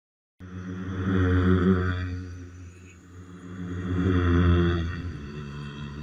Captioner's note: strange pulsing sound